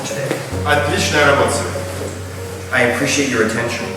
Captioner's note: speaking in a foreign language